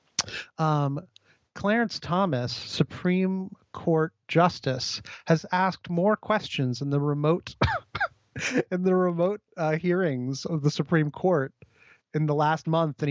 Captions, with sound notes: Clarence Thomas Supreme court justice has asked more questions in the remote (laughs) in the remote hearings, of the Supreme court in the last month,